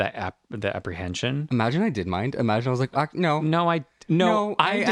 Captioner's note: laugh